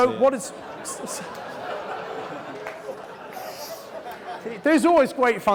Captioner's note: laughing